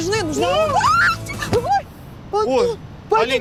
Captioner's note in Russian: кричит